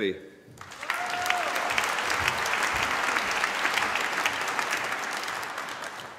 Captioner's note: applause